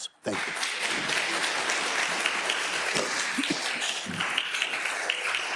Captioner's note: attendees applauding